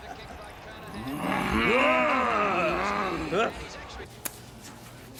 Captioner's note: growls